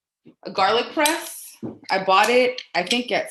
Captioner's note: tools clatter